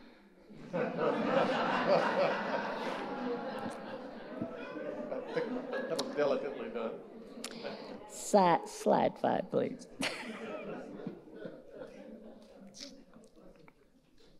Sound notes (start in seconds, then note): 0.5 audience laughing; 10.0 laughing